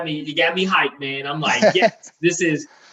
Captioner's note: laughing